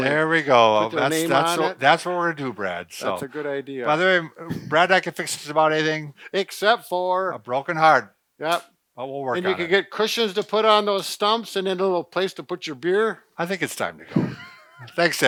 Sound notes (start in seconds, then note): 9.1 slaps back of chair; 14.0 laughter